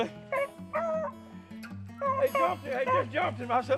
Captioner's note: dog whimpering